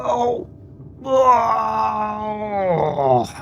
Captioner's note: groaning